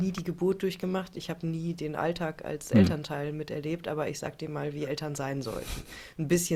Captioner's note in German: räuspern